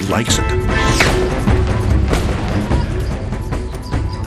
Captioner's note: gunshots banging